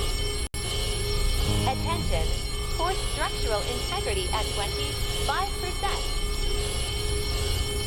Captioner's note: TikTok voice; alarms & Bells